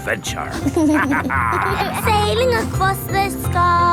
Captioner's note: captain dog and kids laughing